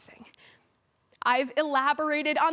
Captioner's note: soft breaths